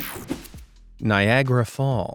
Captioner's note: whooshing